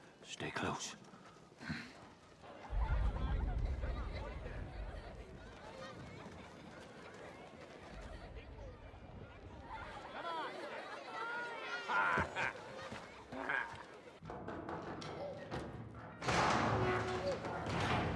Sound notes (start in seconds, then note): 3.4 children crying; 12.1 laughs